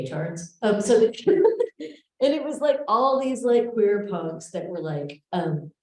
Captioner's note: laughs